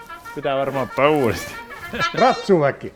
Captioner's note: phone rings